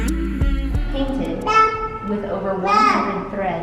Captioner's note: babbling